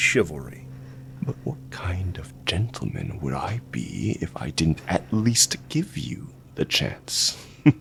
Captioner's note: taunting; Vullian softly laughs